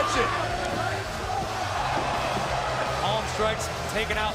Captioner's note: crowd cheering